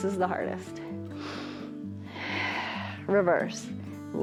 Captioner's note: inhales and exhales